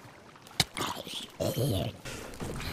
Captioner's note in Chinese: 殭屍死去聲